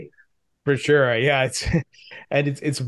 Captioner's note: chuckles